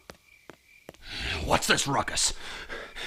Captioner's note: sigh